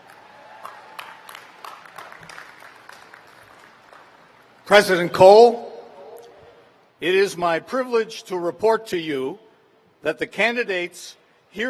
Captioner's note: cheers and applause